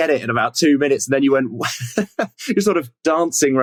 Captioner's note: laughs